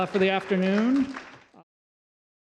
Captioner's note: applause